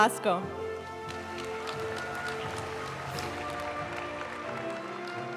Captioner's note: audience cheering and applauding; graduation music